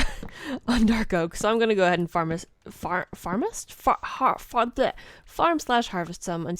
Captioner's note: struggling to talk